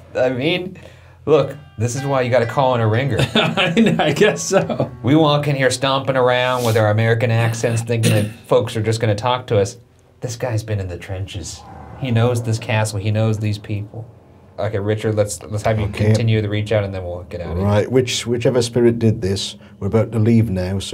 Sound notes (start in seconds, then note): 3.7 laughing